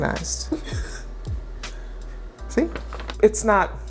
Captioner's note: laughs